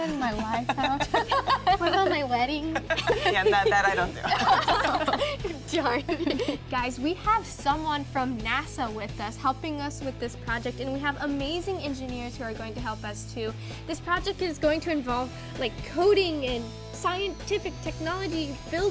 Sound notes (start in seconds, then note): 1.6 laughs; 3.2 laughs; 4.9 laughs